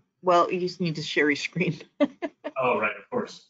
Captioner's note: chuckling